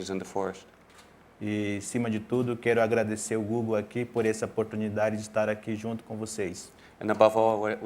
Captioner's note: speaking in portuguese